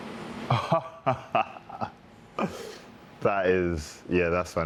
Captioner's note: laughing